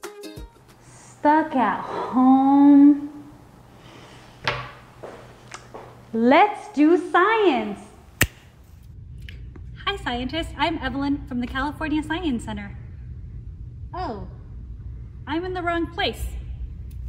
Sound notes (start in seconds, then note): 8.1 snap